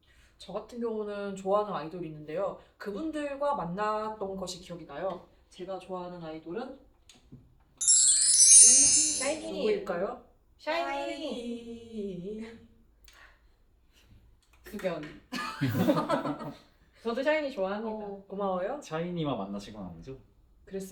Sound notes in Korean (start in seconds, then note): 7.8 효과음; 15.3 웃음소리